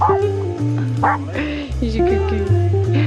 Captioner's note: dog barking